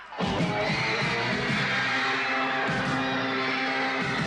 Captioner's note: Аплодисменты толпы